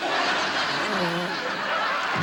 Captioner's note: laughter; blows nose